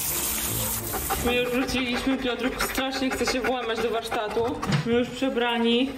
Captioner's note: dog